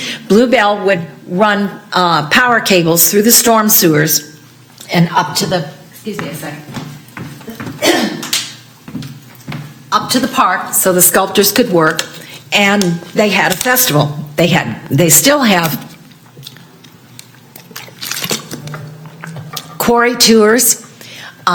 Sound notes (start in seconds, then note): 7.8 presnter coughing